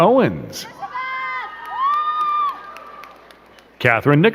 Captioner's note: crowd cheering and clapping